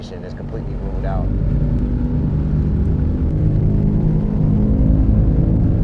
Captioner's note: boat engine growling